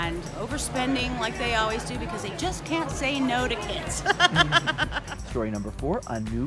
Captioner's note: laughter